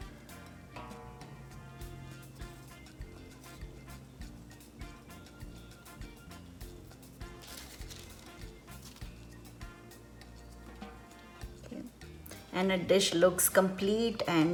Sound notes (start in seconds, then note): 0.1 quiet fiesta music; 7.4 paper rustling